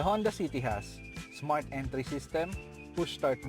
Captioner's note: none